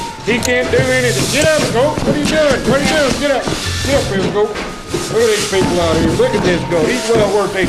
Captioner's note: sweeping Sounds